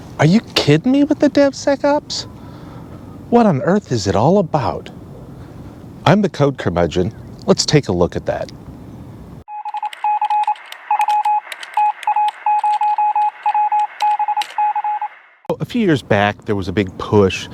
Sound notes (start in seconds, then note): 9.5 morse code beeping